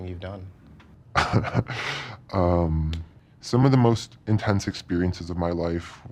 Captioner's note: chuckles